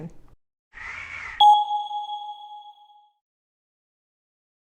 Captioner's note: logo blings